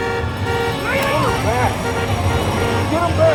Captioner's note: intense music; Tector shouts